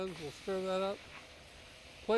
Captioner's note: sizzling